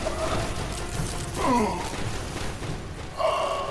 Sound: groaning

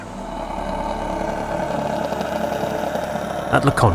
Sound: top spinning

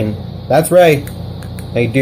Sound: clicking!

